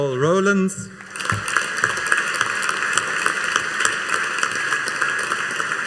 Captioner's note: audience applauding